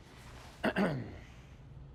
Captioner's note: Tommy clears his throat